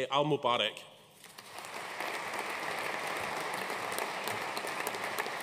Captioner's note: audience applauding